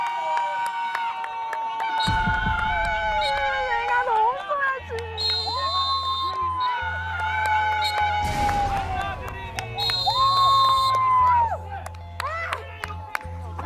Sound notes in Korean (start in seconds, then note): 7.3 호루라기 소리